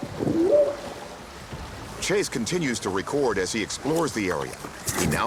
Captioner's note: whooping sound